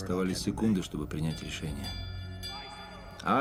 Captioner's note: bell dinging